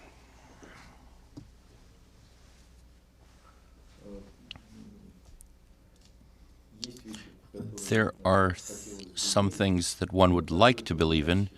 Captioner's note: through translator